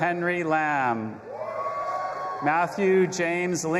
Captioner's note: audience applauding and cheering